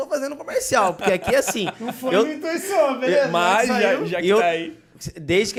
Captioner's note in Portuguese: risos